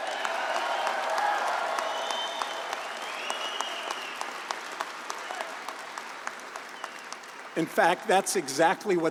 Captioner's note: applause